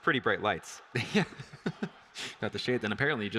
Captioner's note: laughs